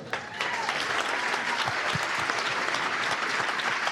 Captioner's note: cheers and applause